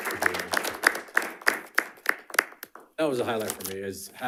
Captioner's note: panelists applauding